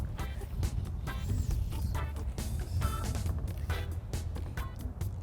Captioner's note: fun upbeat music; line whooshing